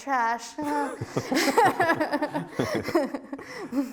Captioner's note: both laughing